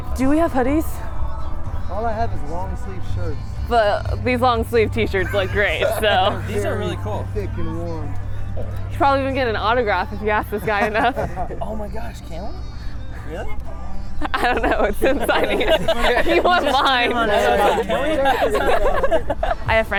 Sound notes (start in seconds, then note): 2.0 male Voice; 6.6 male Voice; 11.8 male Voice; 17.5 laughing